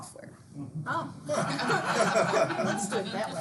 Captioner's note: students laughing